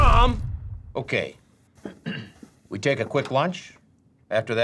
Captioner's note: clears throat